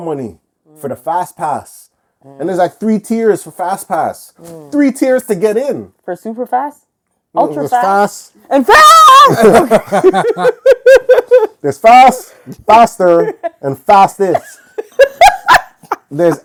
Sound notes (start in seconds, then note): 8.8 laughing; 14.2 laughing